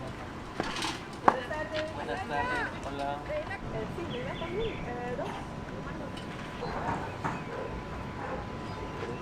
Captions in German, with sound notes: [auf Spanisch] Guten Tag! Guten Tag, hallo. ... ja, geben Sie mir zwei?